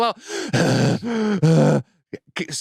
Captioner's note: imitates heavy breathing